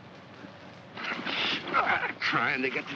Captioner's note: sounds of struggle